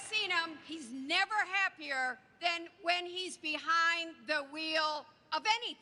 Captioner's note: applause